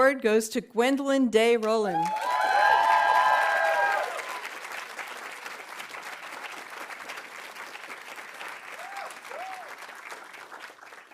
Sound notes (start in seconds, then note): 1.9 audience cheering; 2.0 audience applauding